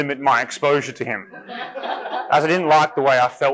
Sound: audience laughing

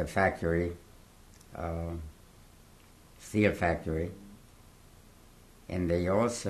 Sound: pauses for 3 seconds

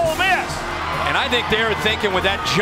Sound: voiceover

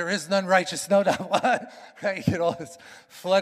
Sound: chuckles

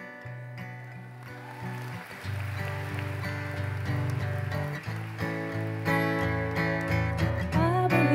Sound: applause

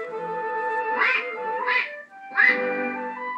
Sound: quack Quack Quack

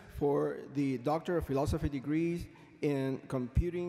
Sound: none

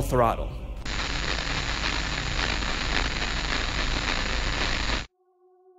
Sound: audio static

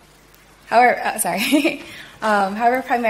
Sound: laughs

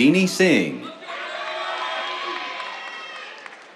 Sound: cheers, applause

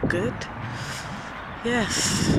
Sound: inhales

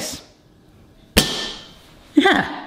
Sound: gadget thuds

